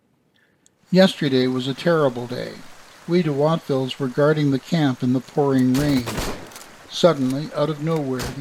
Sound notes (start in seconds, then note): 0.6 rain; 5.7 musket fire